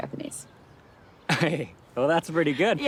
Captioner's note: Anthony laughs